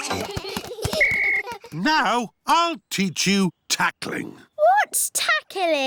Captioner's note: blows whistle